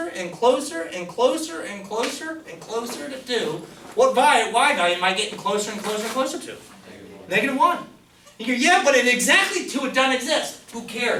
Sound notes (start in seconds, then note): 6.8 voiceover